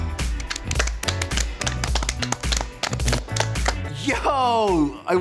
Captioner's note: upbeat music; all clapping